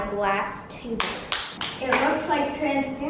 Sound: person claps

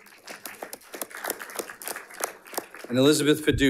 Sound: audience applauding

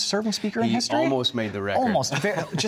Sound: laughs

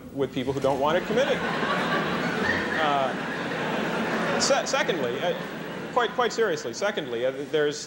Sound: laughter

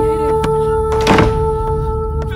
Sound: door closed

